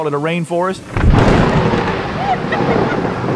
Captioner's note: thunder cracking; woman laughing